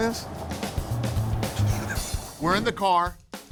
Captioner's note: laughs